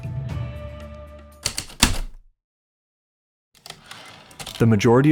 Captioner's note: typewriter clicks and slide